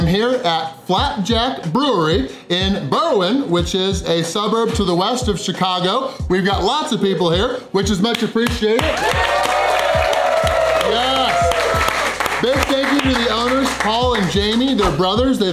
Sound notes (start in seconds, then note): 8.8 crowd cheering